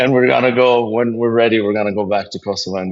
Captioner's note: laugh